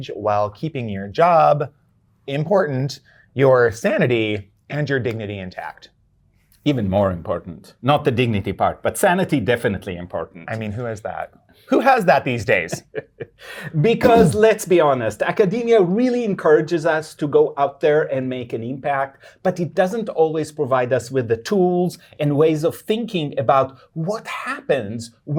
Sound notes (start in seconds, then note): 12.3 guy laughing